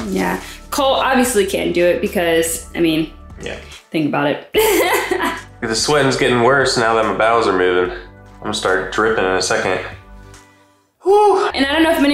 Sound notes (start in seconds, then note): 4.6 laughing